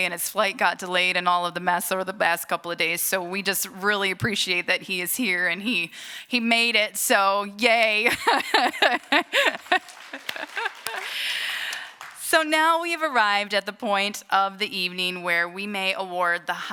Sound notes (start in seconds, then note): 8.0 laughter; 8.4 applause